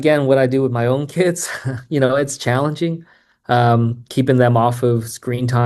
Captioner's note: laughs